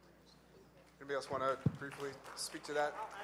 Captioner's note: audience applauds